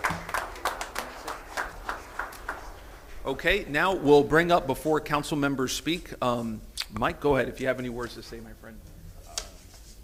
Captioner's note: applause